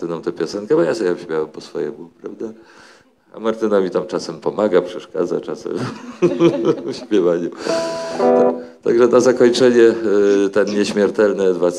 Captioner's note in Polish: śmiech